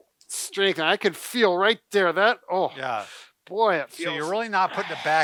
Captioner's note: straining